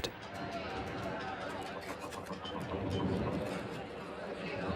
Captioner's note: sailors chattering